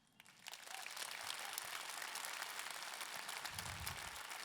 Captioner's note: audience clapping